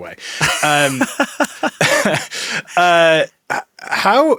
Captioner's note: laughing